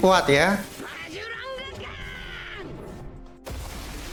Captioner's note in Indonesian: berteriak